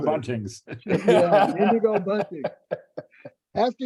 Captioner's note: laughs